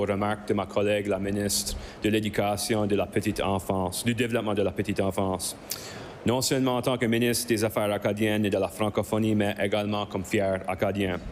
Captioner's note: speaking in French